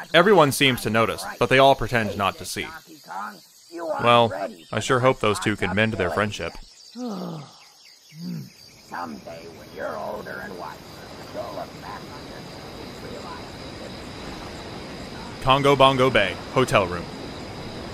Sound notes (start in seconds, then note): 7.0 jungle ambiance and muffled arguing fades away; 7.0 nighttime ambiance